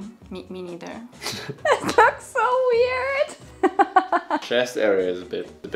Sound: laughs

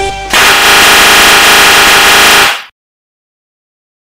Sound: le slap of death x1000

